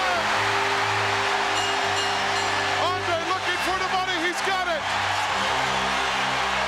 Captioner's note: applause